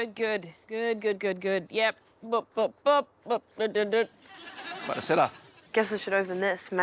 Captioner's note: laughs